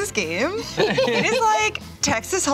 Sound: laughter

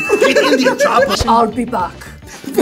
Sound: laughs

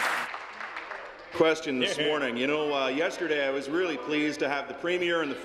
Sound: applause

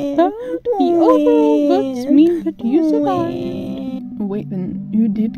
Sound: crying

